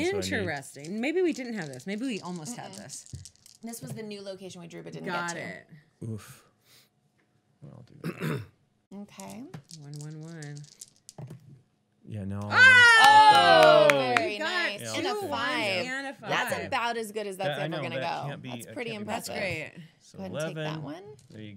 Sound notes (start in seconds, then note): 12.4 loud cheering